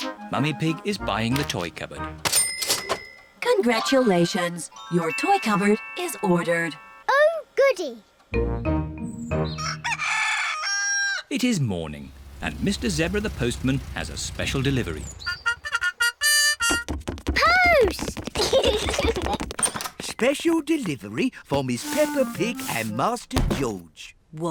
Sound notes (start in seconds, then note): 9.5 cockerel crows; 18.3 both giggle